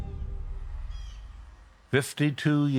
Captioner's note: dramatic music; birds chirping